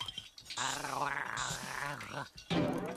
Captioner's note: gargling